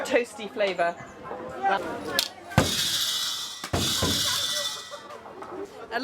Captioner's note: sound of balls bouncing